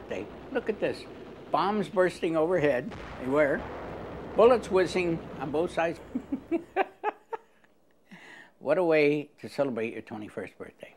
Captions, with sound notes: Look at this, bombs bursting overhead. They were bullets whizzing on both sides. (laughs) What a way to celebrate your 21st birthday.